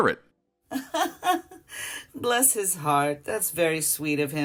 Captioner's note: laughs